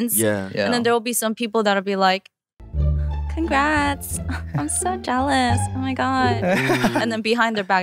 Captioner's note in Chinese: 假笑